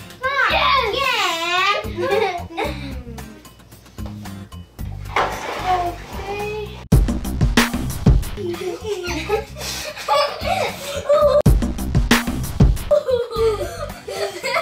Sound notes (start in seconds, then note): 1.8 giggling; 7.0 fun music; 8.3 giggling; 11.6 fun music